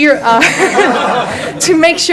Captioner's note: audience laughs